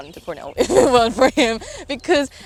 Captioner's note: laughs